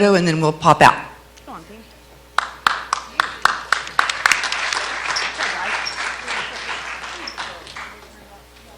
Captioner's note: clapping